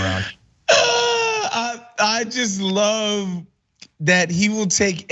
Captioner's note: laugh